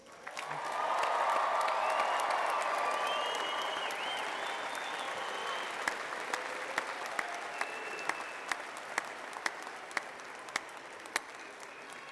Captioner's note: cheering and applause